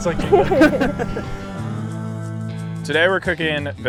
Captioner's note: laughter